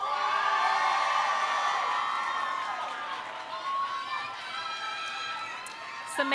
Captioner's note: audience cheering; audience applauding